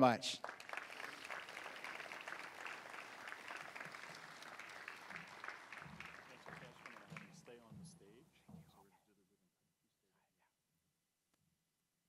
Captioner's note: applause